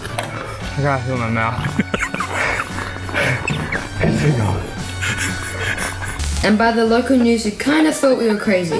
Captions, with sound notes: I can't feel my mouth. (LAUGHTER) Just keep going. ..and by the local news who kind of thought we were crazy.